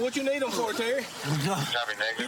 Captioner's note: panting